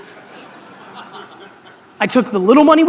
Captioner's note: audience laughter